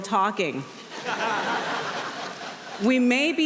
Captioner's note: audience laughing